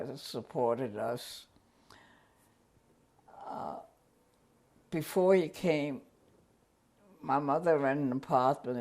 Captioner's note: pauses for 3 seconds